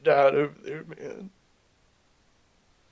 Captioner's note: Adam crying